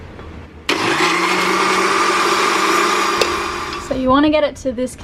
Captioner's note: blender whirring